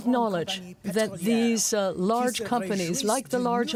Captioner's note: speaking french